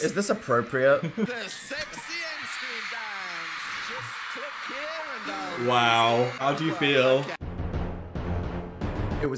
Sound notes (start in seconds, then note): 3.0 crowd screaming; 7.3 dramatic music